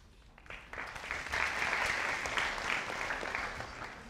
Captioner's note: audience applauding